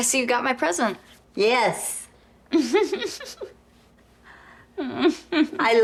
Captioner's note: Holly chuckling